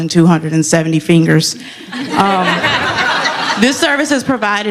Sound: laughter

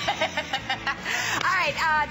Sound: laughter

